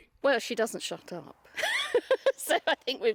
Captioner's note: laughter